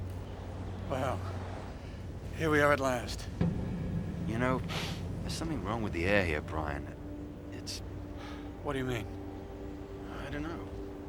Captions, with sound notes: WELL, HERE WE ARE AT LAST. YOU KNOW-- [ Sniffs ] THERE'S SOMETHING WRONG WITH THE AIR HERE, BRIAN. - WHAT DO YOU MEAN ? - I DON'T KNOW.